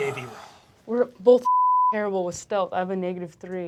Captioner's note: beep